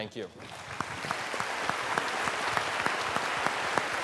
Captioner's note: applause